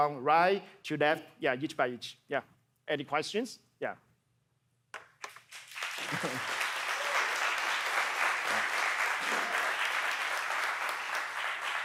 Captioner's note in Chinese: 掌聲